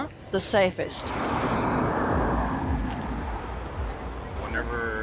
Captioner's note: traffic noises